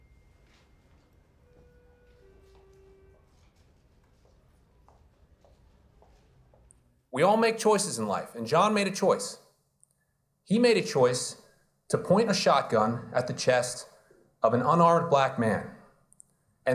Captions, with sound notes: (elevator bell chimes) (heels clacking) - We all make choices in life. And John made a choice. He made a choice to point a shotgun at the chest of an unarmed Black man